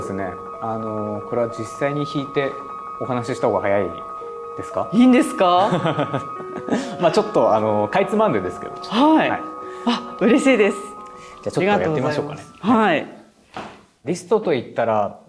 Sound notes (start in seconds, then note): 5.6 laughs